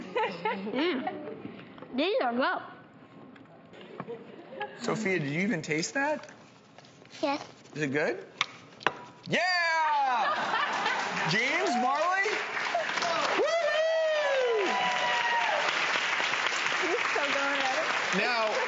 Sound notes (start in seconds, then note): 0.0 lady Presenter laughs; 10.6 crowd applauds; 10.6 lady Presenter laughs; 15.4 crowd applauds